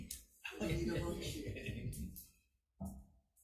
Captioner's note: several laugh